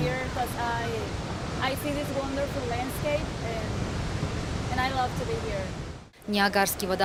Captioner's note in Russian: английская речь